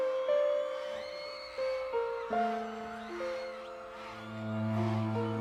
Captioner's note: crowd cheering